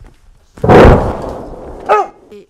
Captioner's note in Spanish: Explosión muy cercana